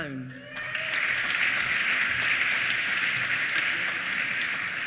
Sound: applause

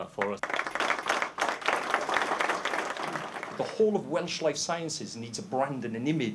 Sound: applause

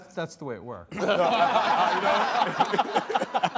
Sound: all laughing

